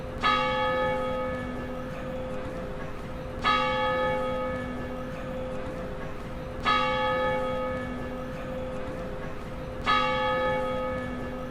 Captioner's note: bell chiming